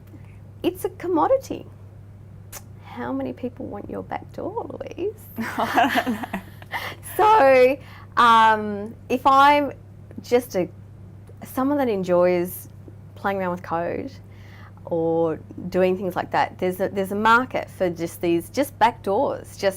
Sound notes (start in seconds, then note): 5.4 laughing